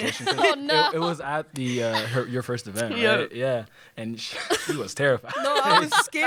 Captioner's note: laughter